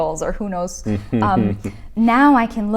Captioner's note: laughs